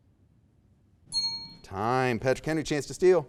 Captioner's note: timer pinging